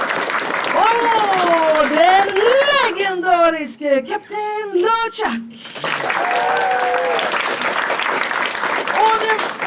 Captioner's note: audience claps and cheers; audience claps and cheers